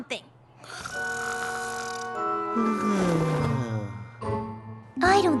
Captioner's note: snoring